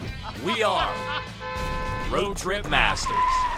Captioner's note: car Horn Sounds